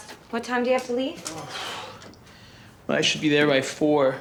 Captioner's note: sighs